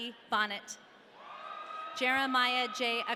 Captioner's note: audience cheering